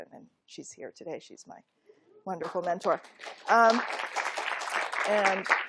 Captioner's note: applause